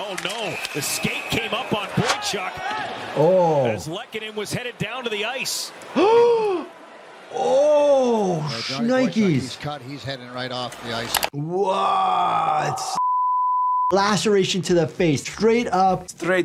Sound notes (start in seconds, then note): 6.1 gasping; 12.9 screen beeping